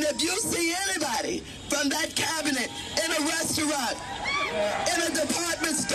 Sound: cheers and applause

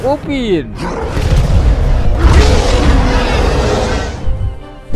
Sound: Titan Upin is roaring

